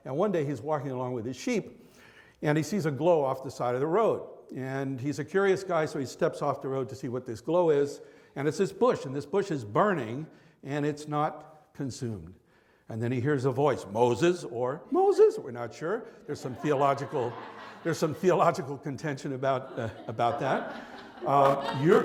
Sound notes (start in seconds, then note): 13.7 deep voice; 14.6 high voice